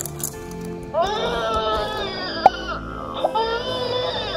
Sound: baby crying

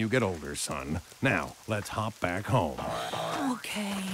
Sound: sighs

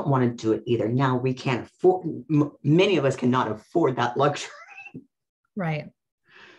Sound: laughs

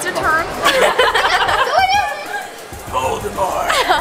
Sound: everyone laughs

